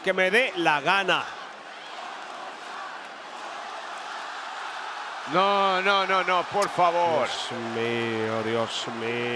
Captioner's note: applause